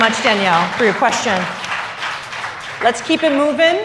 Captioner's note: applause